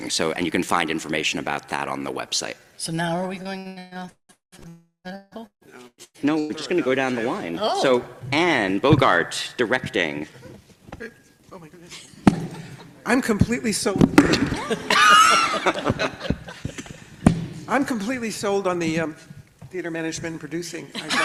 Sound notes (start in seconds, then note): 12.4 everyone chuckles; 14.3 everybody laughs; 20.9 everybody laughs